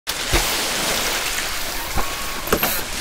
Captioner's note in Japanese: 水の中に入る音